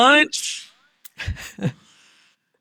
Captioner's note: laughing